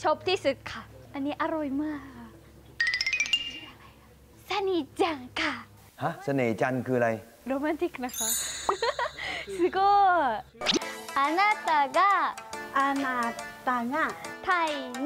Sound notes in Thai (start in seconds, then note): 8.6 เสียงหัวเราะ